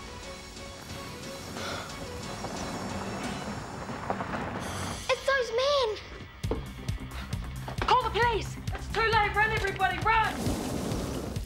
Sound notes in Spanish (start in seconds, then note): 1.5 Laura jadea; 6.4 música intensa